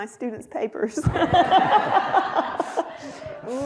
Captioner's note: laughter